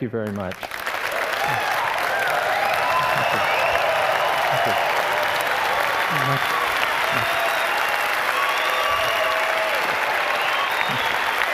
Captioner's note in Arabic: تصفيق